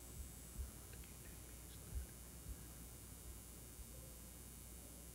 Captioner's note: whispers